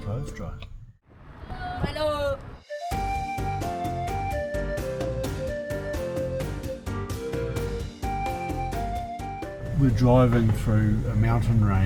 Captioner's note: road noise